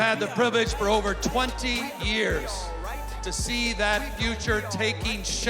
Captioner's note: cheers and applause